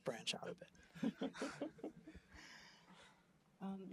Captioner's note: laughter